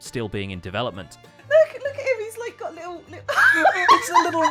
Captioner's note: laughs